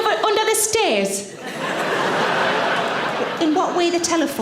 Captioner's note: audience laughing